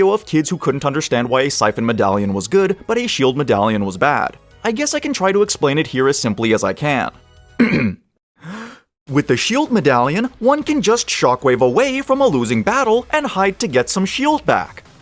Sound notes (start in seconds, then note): 7.6 ahem